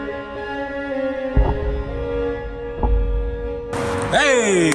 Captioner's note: deep bowstring thump; clapping